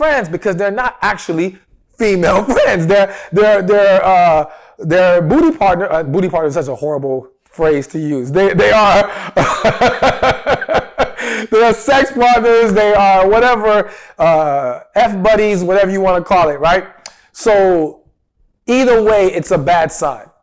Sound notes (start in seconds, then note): 8.4 laughs